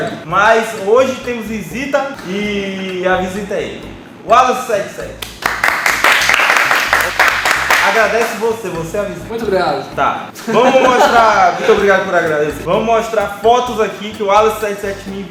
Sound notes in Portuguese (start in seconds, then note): 5.2 Salva de Palmas